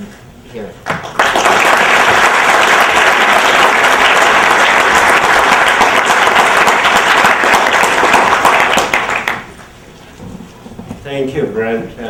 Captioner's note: applause